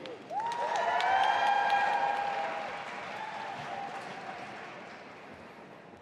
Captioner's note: audience applauding and cheering